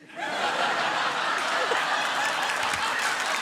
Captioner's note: laughter